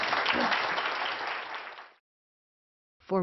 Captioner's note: applause; 鼓掌